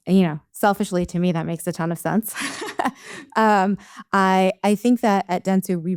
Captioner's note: chuckles